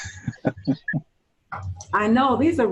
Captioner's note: laughing